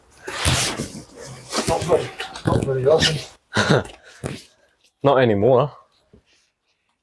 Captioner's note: laughter